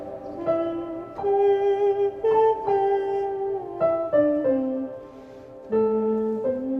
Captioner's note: piano music; humming